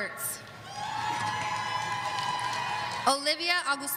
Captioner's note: audience cheering